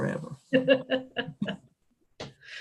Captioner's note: laughter